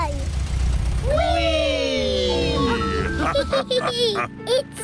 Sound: all laugh

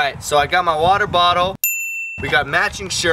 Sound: ding

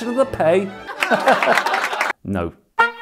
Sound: laughter

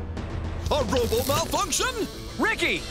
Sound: narrator Voice

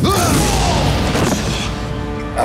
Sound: explosion; repairman thudding

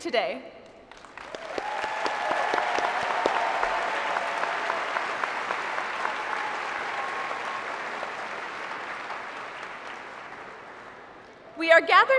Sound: applause

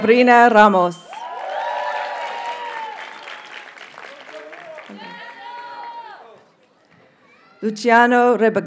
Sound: audience cheers and applauds

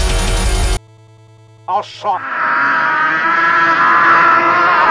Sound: demonic screaming

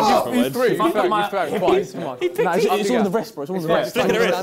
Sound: crowd mumbling

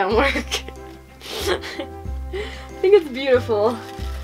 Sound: laughter

